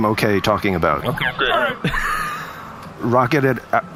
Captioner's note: laughs